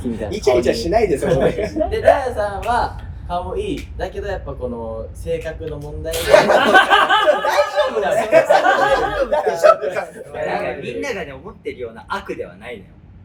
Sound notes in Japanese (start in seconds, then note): 6.1 爆笑する声